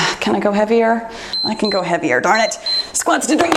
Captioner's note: timer beeps